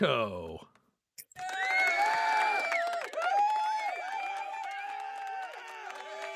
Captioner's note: cheering